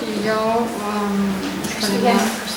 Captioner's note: espeaking in Catalan